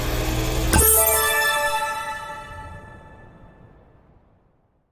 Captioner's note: chime ringing